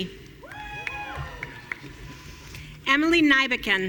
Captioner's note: audience cheering